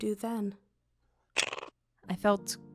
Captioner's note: SFX: KIRI’s mandibles snap